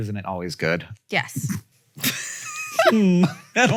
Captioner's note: laughs